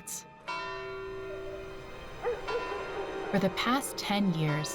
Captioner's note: bell tolling